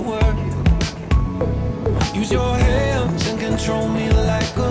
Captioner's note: wind blowing